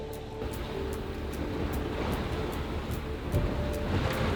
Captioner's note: waves splashing